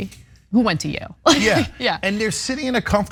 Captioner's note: laugh